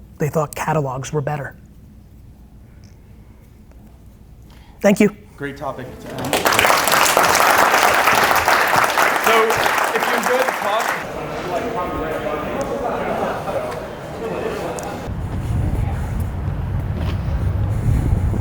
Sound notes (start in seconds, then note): 6.8 audience applause